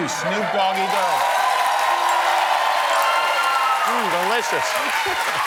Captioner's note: applause